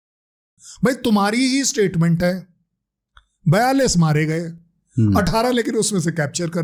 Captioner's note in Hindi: नाक से की जाने वाली आवाज़